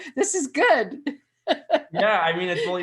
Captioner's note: laughing